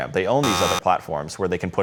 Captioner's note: buzzer sounding